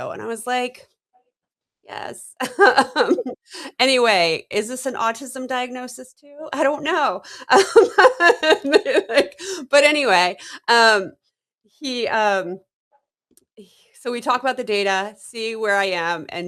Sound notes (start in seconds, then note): 2.5 laughs; 7.5 laughter